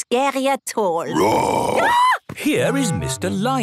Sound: roar, scream

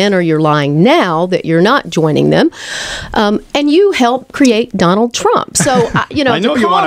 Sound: LEWIS laughs

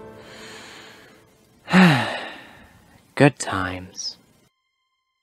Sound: sigh

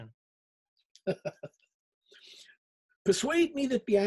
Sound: laughs

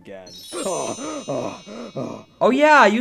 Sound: panting

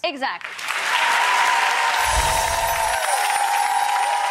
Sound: crowd cheers

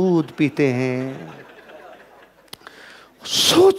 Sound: laughing

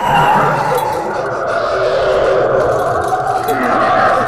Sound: ghost howls

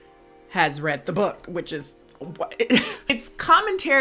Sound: laughs

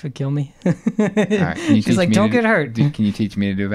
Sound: laughing

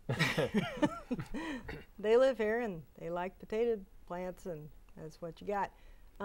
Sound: laughing

